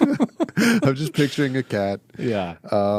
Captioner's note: laughing